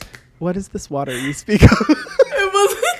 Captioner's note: laughs